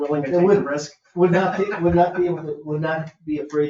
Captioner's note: people chuckle